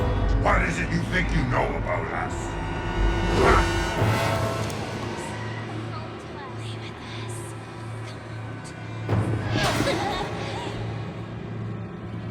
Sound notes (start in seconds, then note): 4.1 menacing music; 6.2 voices whispering; 9.7 figure whooshing